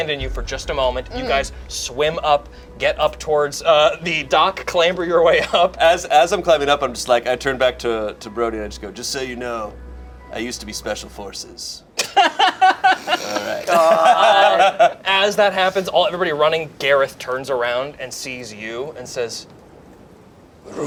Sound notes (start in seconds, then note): 12.0 laughs